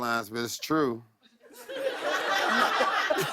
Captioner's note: laughter